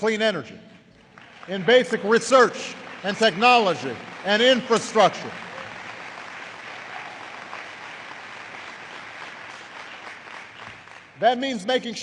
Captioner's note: applause